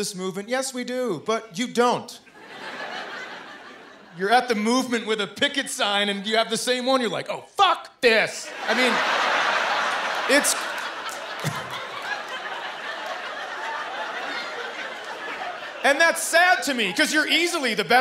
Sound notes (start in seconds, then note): 12.5 laughter